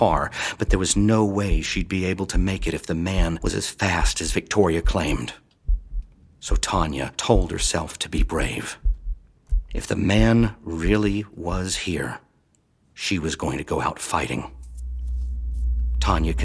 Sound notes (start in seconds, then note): none